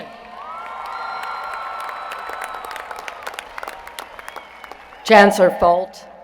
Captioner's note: applause